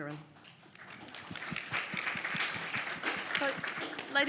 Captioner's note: audience applauds